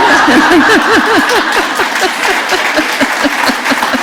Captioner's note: laughter